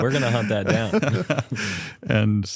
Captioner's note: laughter